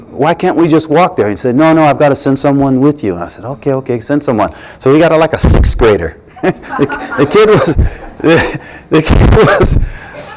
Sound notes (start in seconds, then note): 6.3 laughter